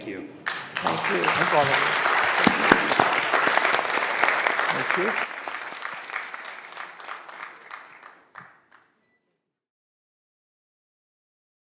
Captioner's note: applause